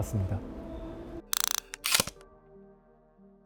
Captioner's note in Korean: 다이얼 소리